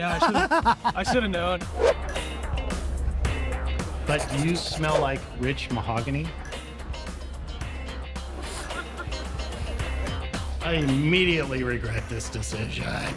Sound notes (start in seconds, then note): 0.0 laughs; 1.7 air whooshes; 2.0 funky pop music; 6.8 funky pop music continues